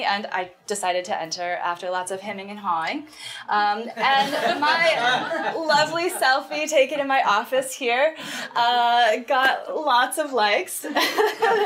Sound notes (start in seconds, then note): 4.0 group laughing; 11.0 laughs